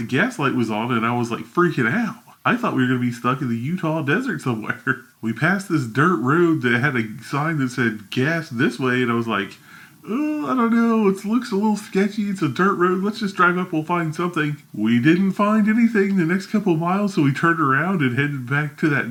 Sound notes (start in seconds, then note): 4.8 laughs